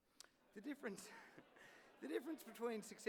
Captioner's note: laughter